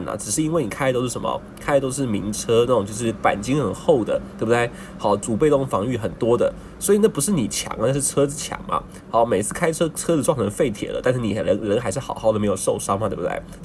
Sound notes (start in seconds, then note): 8.6 car